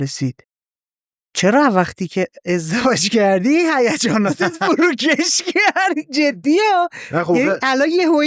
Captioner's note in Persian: خنده